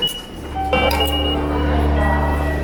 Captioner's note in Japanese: 自動改札の音